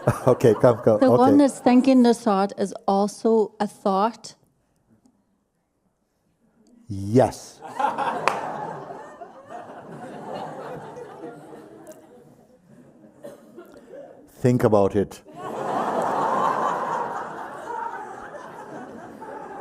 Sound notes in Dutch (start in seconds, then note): 10.7 gelach; 18.5 gelach